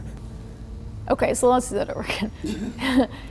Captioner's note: laughs